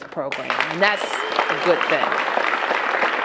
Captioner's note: applause